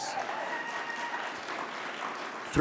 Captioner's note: audience applauds